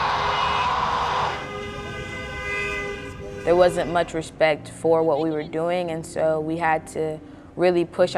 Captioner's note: screaming; car horn